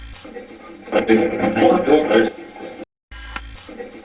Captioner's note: static playback transmitting; static fizzing